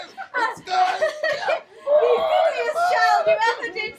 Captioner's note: whooping